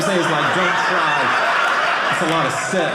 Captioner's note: audience laughing